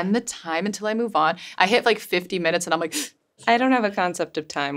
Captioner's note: winces